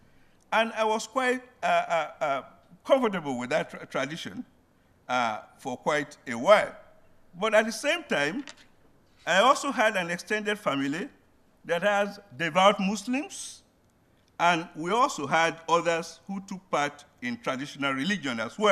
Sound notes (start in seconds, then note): none